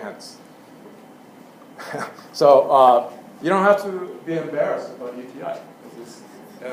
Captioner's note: laugh